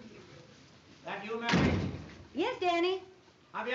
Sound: door closes

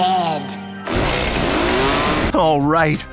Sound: chainsaw revving

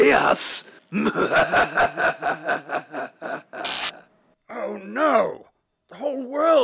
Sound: laugh

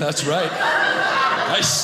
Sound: audience laughing

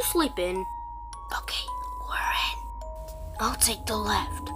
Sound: whispering

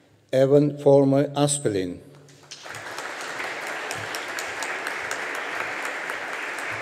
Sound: audience applauding

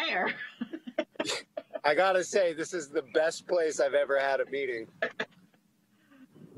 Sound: laughing

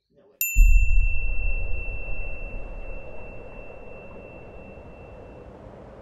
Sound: wind blowing; beep

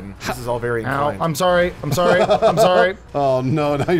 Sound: laughs

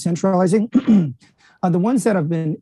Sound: coughing

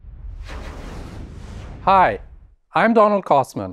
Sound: logo whooshing

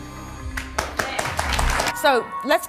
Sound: audience clapping

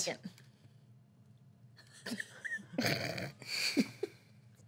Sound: girls laughing

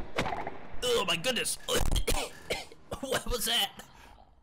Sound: coughs

